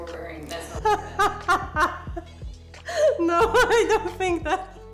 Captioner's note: laughing